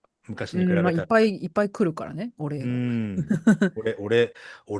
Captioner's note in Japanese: 笑い